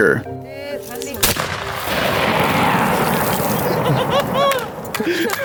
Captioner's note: gunshot sounding